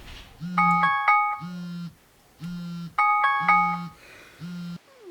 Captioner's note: phone ringing